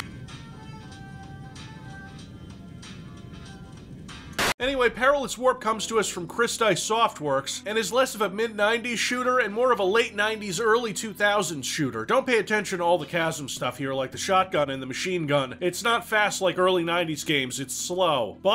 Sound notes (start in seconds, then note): 0.1 quiet music; 4.3 TV buzzing